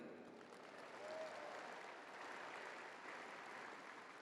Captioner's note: crowd applauding